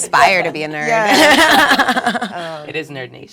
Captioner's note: laugh